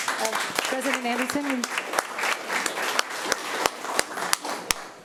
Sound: applause; indistinct conversation

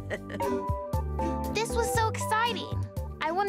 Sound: Mrs. O'Connor laughs

